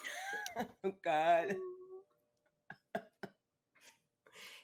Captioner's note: laughs